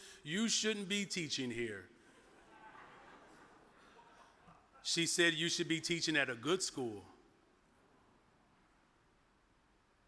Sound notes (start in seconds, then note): 2.1 audience chuckles